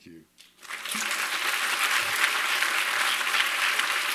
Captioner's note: applause